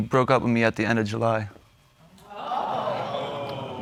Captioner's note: audience exclaims